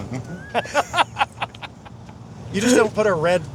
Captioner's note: laughs